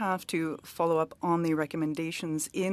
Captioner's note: speaking French